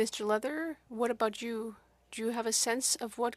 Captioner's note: speaking French